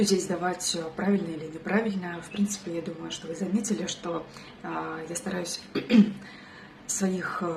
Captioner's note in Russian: откашливается